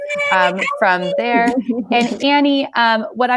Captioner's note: cheering